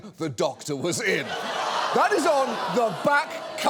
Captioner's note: audience groans